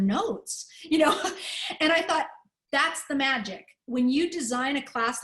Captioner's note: laughter